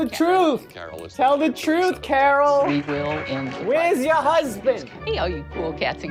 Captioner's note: snapping